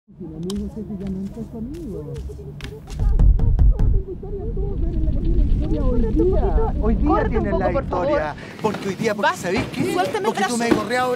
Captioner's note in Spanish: Fuerte discusión entre hombre y mujer